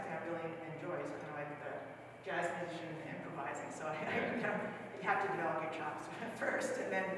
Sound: laughs

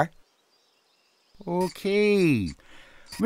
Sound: lisping

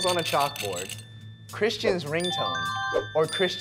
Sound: dinging

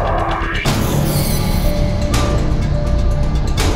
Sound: shrieking

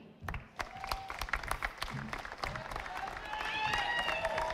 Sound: audience applauding

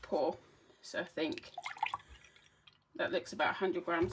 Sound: pouring sound

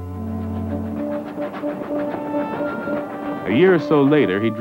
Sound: train chugging

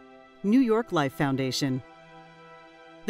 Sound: male Voice

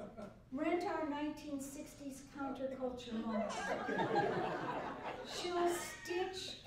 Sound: laughter

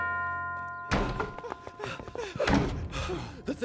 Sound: bell tolls; panting

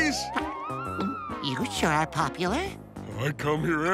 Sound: gulps

